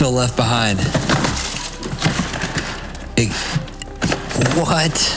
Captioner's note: boxes rustling